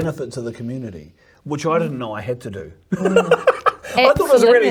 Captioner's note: laughs